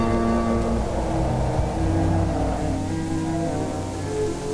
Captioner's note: wind howling; eerie music